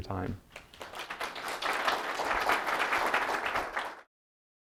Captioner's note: applause